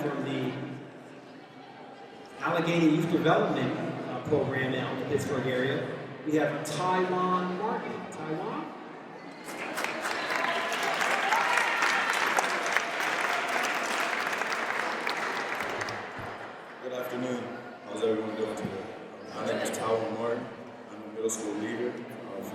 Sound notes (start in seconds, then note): 9.4 audience applauds